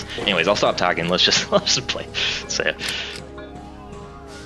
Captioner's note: laughs